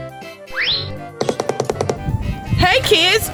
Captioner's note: quick zipping; quick tapping